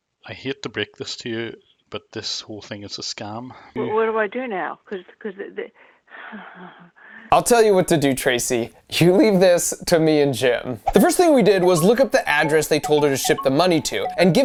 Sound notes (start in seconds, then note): 6.5 stammering